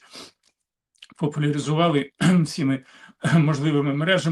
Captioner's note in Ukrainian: сопіння; прочищення горла